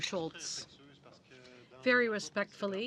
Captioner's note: speaking French